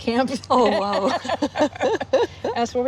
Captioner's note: laughing